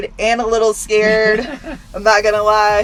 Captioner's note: laughs